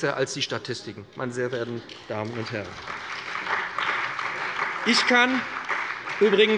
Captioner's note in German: Beifall bei dem BÜNDNIS 90/DIE GRÜNEN und der CDU